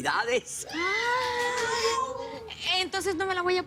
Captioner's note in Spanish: Exclamaciones